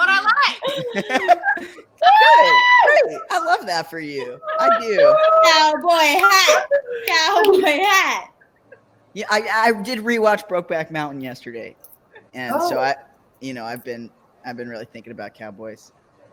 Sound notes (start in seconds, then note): 2.2 laughs; 7.2 snaps